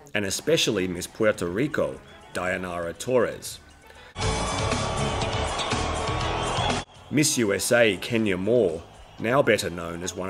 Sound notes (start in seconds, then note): 4.1 audience cheering; 4.3 upbeat music